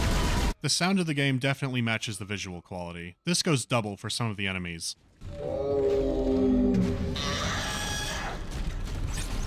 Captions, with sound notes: The sound of the game definitely matches the visual quality. This goes double for some of the enemies. [guttural moan] [sharp shriek]